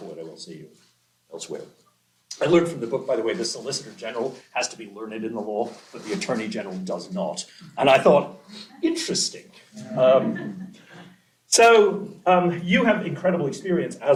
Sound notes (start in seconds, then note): 9.8 laughter